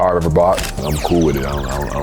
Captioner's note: camera shutters